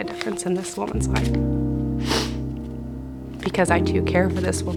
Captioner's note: snuffles